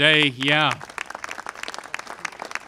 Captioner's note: applause